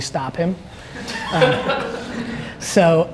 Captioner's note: audience laughs